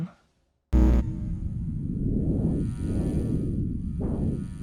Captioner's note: buzzing sound